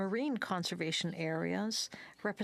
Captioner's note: speaking French